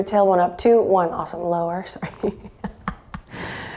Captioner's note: chuckles